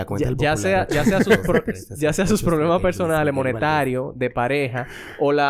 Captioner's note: laughs